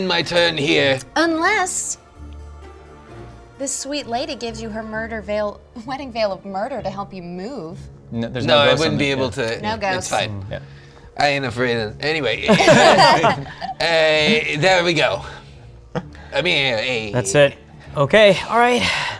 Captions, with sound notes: End my turn here. Unless this sweet lady gives you her Wedding Veil of Murder to help you move. No I wouldn't be able to, it's fine. I ain't afraid of, anyway. (laughter) There we go. That's it, okay, all right.